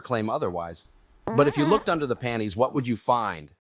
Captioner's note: soft fart